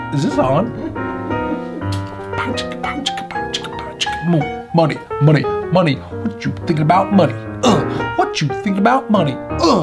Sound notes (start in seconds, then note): 1.8 man beat boxing